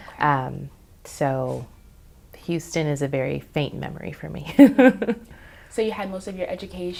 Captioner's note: chuckles